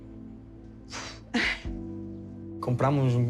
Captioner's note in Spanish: exhala con fuerza